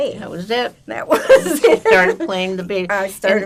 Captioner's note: laughing